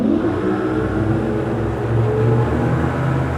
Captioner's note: engine revs